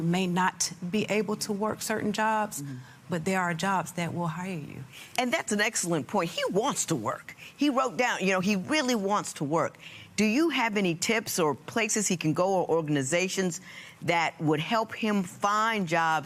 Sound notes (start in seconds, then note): none